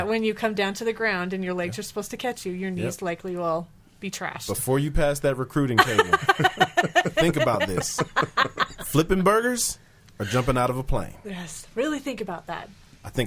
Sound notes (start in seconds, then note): 5.8 laughing